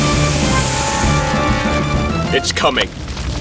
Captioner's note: crackling & Snapping